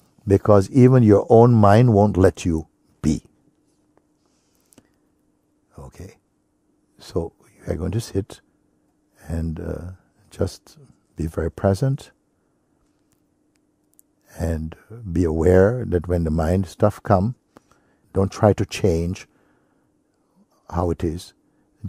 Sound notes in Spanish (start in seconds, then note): none